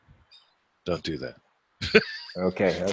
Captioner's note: laughing